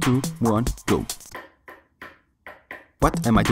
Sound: knock, knock, knock

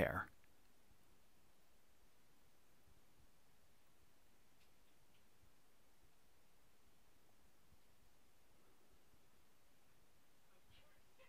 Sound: pause in speaking

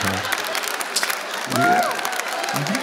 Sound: laughter

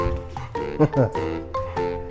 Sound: laughs

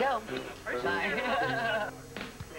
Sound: laughs

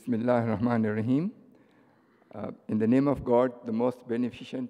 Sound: foreign language spoken

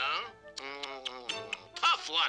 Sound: tsking

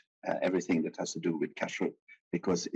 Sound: speaking in foreign language

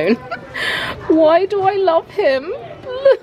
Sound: laughs

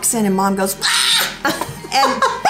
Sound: imitating screaming sounds

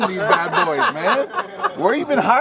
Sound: laughing

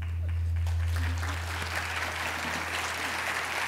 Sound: applause

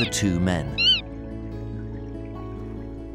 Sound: manatee squeaks

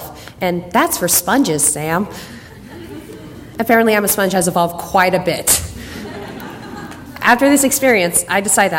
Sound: audience laughter

